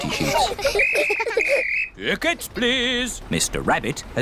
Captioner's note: blows whistle